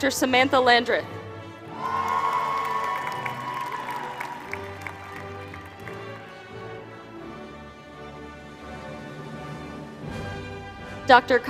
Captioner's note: applause